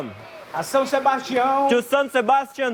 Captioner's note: non-english speech